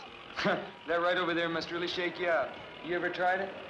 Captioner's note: chuckles